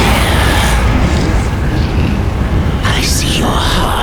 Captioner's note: maelstrom of hellish noise